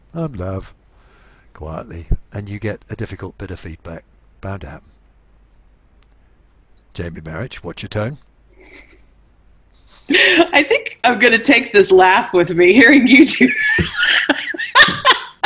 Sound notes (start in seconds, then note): 9.8 chuckles; 9.8 laughs; 13.3 laughs